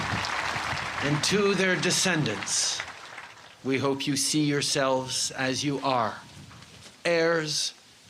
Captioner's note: cheers and applause